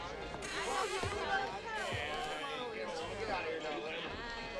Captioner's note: doors creak